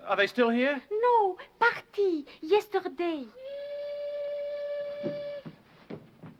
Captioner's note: horn blowing